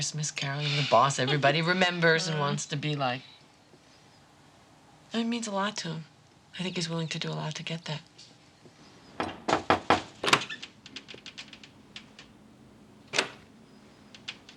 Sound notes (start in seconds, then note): 9.2 knocking at door